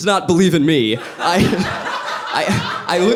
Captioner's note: audience laughing